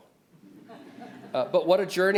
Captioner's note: audience laughs